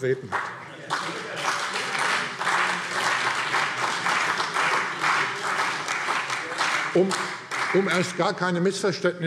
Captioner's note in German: Beifall CDU und BÜNDNIS 90/DIE GRÜNEN